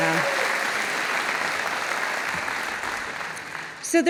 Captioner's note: audience applauding